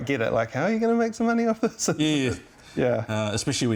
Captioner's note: laughs